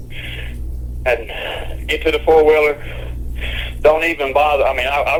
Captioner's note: sighs